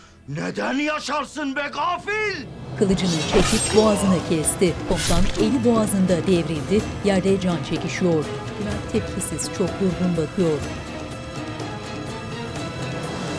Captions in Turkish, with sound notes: ...neden yaşarsın be gafil? (İnleme sesi) (Müzik - Gerilim)